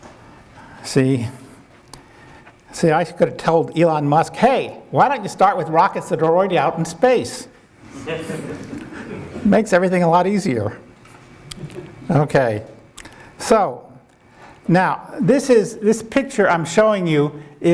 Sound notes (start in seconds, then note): 7.9 audience laughing